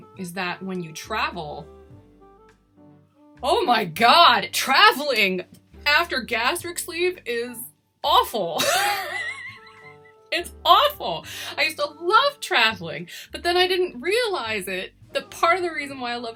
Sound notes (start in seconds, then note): 8.6 laughs